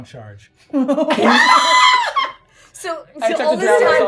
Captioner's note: hysterical laughing